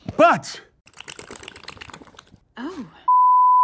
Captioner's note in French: Furieuse masturbation